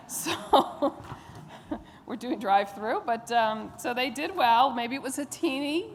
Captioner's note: laughter